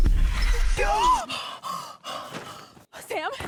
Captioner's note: screams